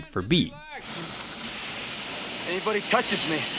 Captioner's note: flare whooshing